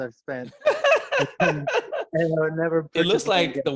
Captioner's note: laughing